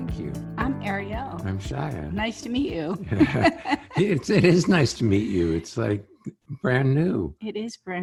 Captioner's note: laughing